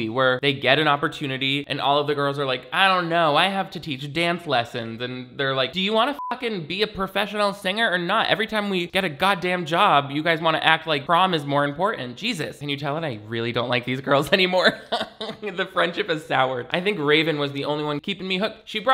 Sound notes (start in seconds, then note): 6.1 beep; 14.6 snickers